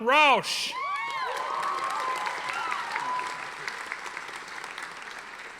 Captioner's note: audience applauding